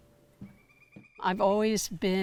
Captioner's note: bird chirping